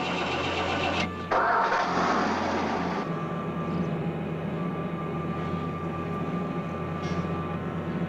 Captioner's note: engine starting